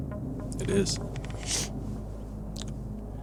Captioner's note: sniffs